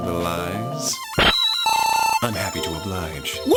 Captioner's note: game beeping